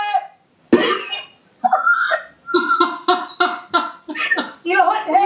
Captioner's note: laughing